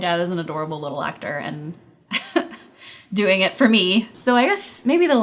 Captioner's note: giggles